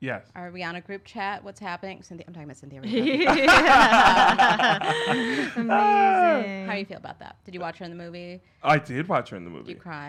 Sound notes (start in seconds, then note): 2.9 laughing